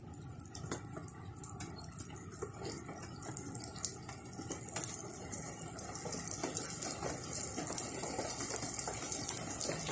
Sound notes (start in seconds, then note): 0.0 sounds of water dripping; 0.1 water dripping gets faster